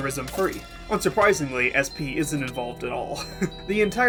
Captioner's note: laughing